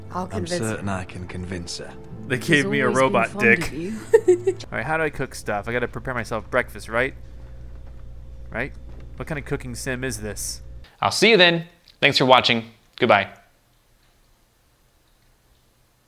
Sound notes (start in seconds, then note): 0.3 voiceover; 3.4 giggles